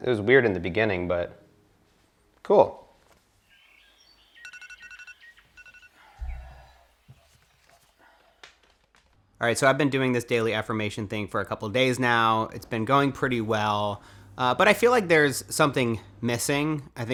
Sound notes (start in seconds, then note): 3.9 alarm